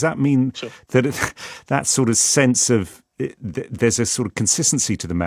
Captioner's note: chuckles